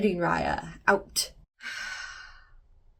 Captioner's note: deep sigh